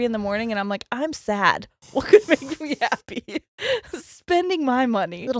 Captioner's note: laughs